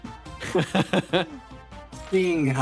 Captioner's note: laughs